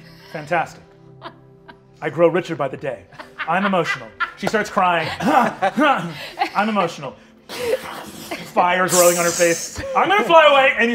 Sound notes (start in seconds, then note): 5.6 grunting; 7.5 imitates flames whooshing